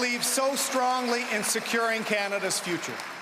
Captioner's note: cheering and Applause